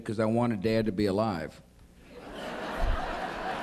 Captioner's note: laughter